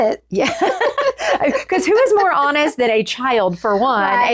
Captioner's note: laughs